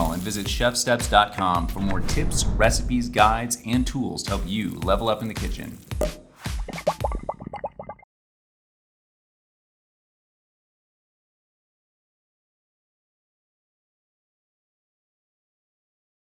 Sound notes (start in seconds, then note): 5.8 upbeat music; 6.0 cork popping; 6.8 liquid bubbling